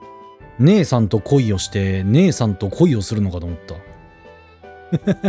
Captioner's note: laughs